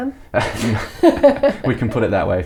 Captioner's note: laughing